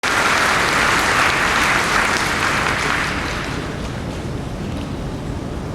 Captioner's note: applause